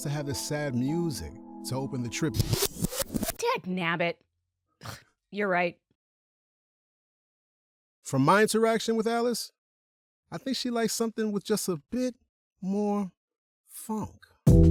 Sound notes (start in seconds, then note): 2.1 record scratch, and music ends; 4.4 scoffs